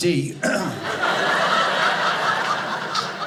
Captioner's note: audience laughing